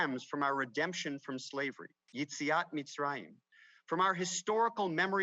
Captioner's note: speaks Hebrew